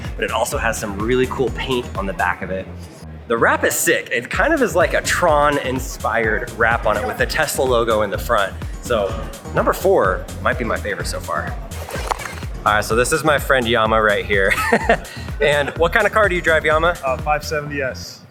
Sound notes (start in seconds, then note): 11.5 upbeat music; 14.4 laughs